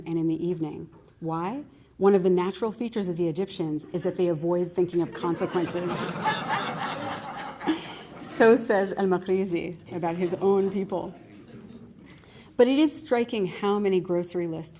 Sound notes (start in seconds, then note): 5.1 laughter